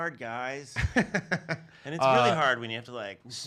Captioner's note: laughs